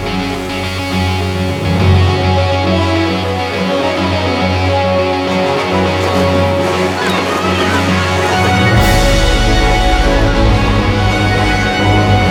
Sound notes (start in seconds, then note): 1.5 ocean, seagulls, wind noise